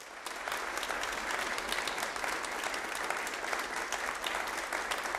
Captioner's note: audience applauding